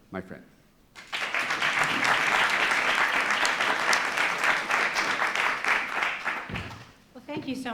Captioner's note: applause